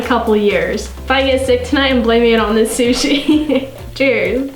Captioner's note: laughs